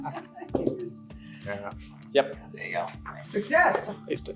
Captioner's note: laughing